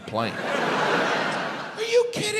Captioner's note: crowd laughs